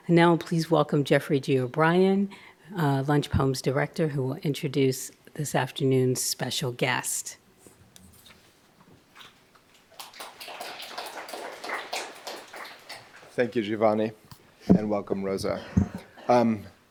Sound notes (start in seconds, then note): 9.9 audience applauding